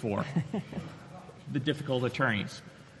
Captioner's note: chuckles